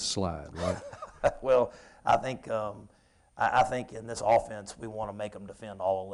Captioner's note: chuckles